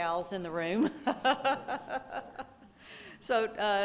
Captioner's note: laughing